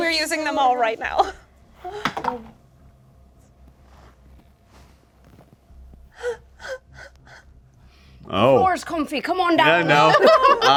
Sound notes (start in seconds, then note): 2.3 dice clatter; 6.2 quick, worried inhales; 10.5 laughing